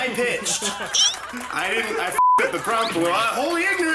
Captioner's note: group laughs